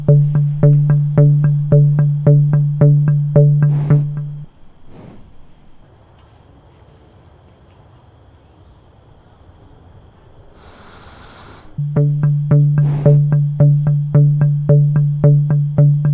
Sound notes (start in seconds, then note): 12.6 deep animal breaths; 14.9 tense music